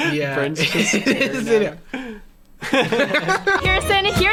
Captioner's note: laughter